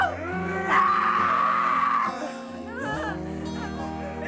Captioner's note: Tina shrieks